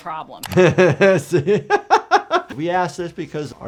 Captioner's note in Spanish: se ríe